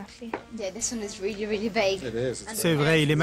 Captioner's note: in English